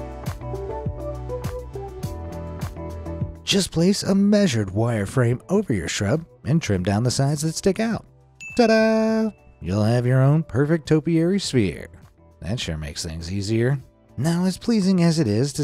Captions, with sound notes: Just place a measured wire frame over your shrub and trim down the sides that stick out. Ta-da. (chiming sound effect) You'll have your own perfect topiary sphere. That sure makes things easier. Now, as pleasing as it is